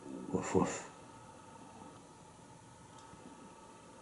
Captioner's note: none